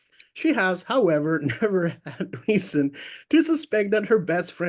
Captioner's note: laughs